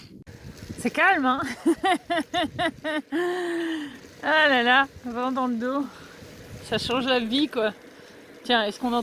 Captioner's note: laughs